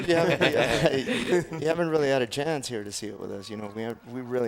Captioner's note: laugh